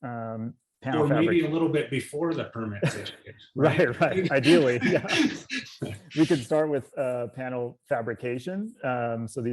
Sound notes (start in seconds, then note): 5.5 both laugh